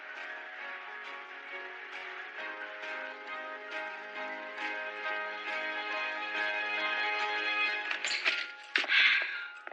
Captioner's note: applause